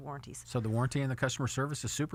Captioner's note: voiceover